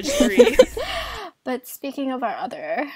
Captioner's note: hosts laugh